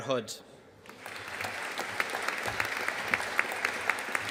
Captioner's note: audience applauding